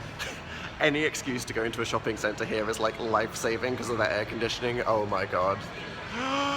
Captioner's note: inhale